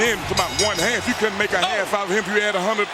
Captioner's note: bell rings